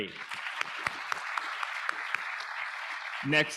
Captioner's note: audience applauding